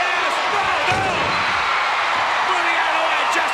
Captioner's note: crowd cheering